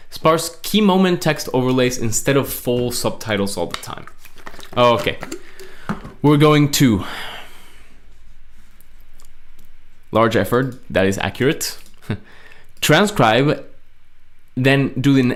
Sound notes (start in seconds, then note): 4.2 paper rustling; 12.0 laughs